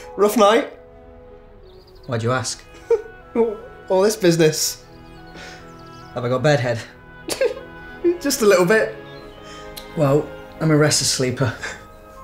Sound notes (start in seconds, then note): 7.2 giggles